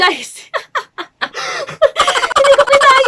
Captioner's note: laughing